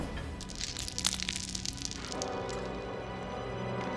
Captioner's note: balls clattering; suspenseful music intensifies